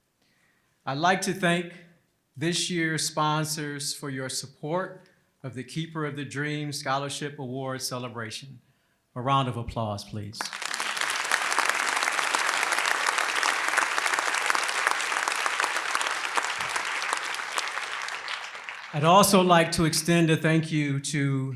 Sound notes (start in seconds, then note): 10.4 applause